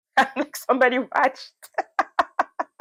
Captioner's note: laughs